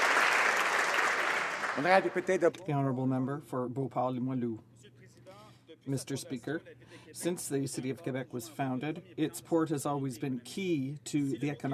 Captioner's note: applause